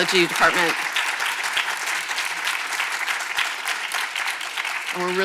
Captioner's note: audience applauds